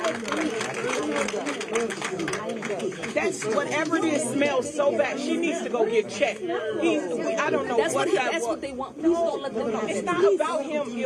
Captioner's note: applause